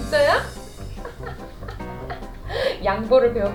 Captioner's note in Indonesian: tertawa